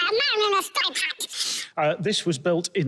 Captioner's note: chipmunk Pitched